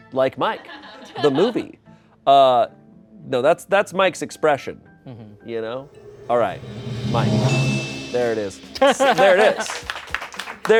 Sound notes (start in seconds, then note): 5.9 bell chimes